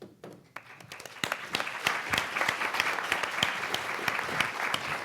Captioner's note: audience applauding